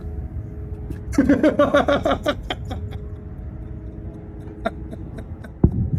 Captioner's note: Ketawa